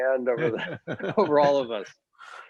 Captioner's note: laughter